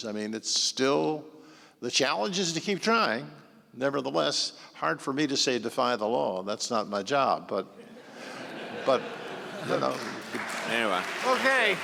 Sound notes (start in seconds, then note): 7.8 audience laughing